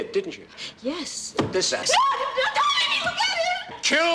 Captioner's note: screaming